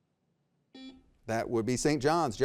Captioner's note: buzzer beeps